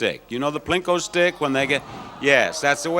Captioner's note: audience exclaims